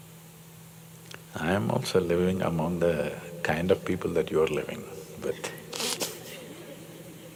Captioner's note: laughs